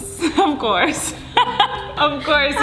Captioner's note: laughing